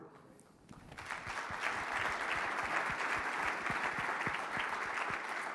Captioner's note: audience clapping